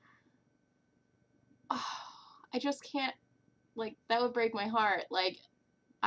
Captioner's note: sigh